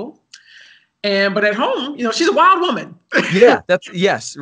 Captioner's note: laughs